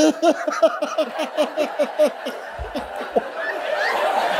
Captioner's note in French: le fou rire continue